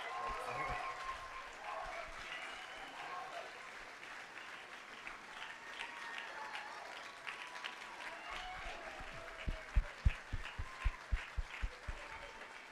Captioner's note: applause